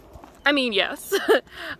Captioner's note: laughs